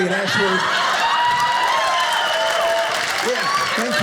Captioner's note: audience cheers